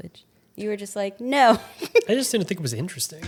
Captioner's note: laughs